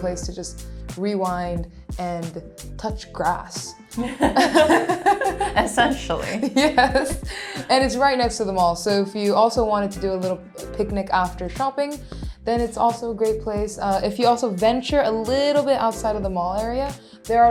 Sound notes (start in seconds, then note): 4.0 chuckle